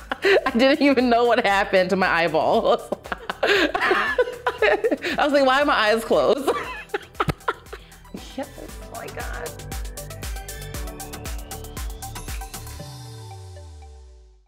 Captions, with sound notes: I don't even know what happened to my eyeball. (laughing) Why are my eyes closed? Yes! (energetic music)